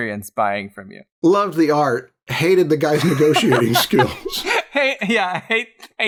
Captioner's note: laughter